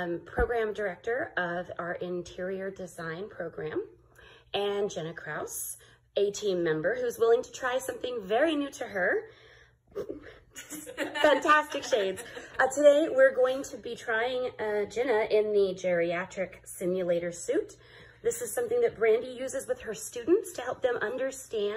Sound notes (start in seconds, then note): 10.0 laughing